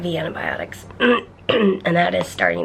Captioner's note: clears throat